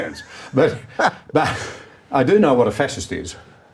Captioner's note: laughing